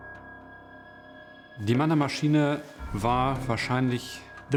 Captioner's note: non-english speech